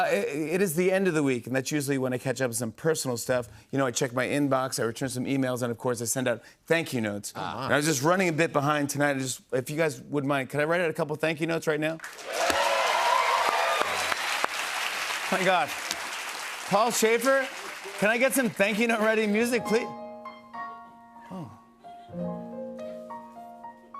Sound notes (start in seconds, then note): 12.0 cheers and applause